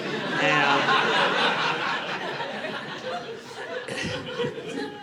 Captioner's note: audience laughing